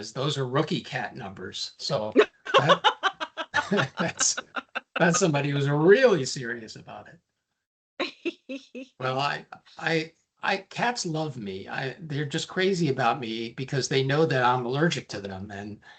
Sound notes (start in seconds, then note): 2.2 laughing